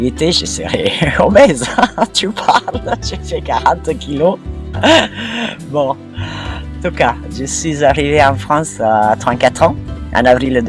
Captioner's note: laughs